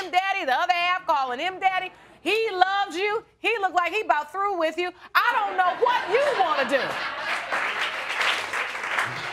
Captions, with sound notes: the other half calling him "Daddy," he loves you, he looks like he's about through with you... I don't know what you want to do. (AUDIENCE LAUGHING) (APPLAUSE)